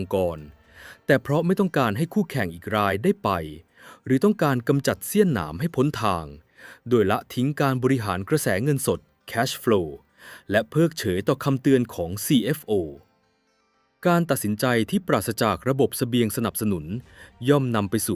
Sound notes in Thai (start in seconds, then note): 6.7 เสียงสูดหายใจ